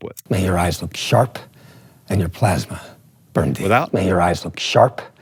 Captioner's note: movie dialogue plays